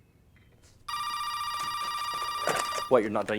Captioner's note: phone ringing